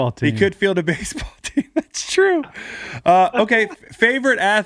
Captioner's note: laughs